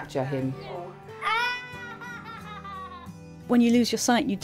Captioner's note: laughter